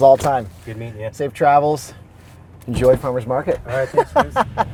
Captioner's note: laughs